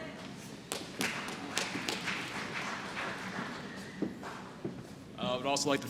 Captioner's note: applause